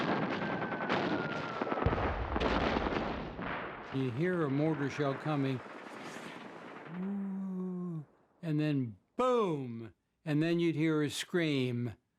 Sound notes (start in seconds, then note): 0.0 rapid gunfire and explosions; 1.1 mortar shell whistling; 6.8 imitates whistling